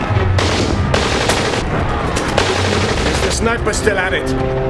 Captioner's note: guns firing